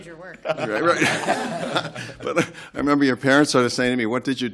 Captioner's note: laughter